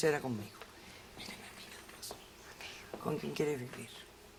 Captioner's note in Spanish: Susurra